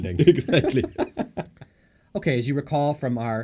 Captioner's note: laughter